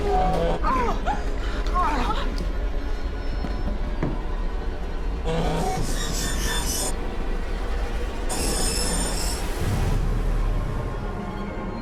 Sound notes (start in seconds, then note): 0.0 groaning